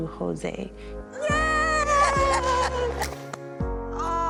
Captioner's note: laughs